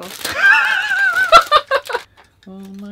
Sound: laughs

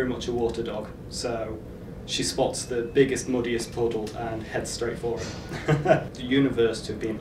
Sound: laughs

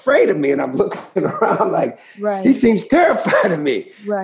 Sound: laughter

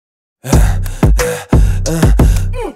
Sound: distressed vocalisations

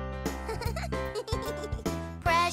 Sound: chuckles

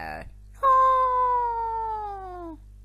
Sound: cries

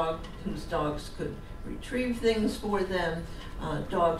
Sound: none

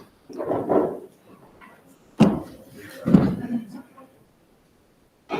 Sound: object thuds and scrapes softly

